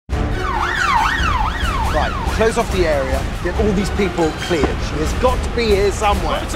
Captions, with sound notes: (SIREN WAILING) Right, close off the area. Get all these people cleared. She's got to be here somewhere.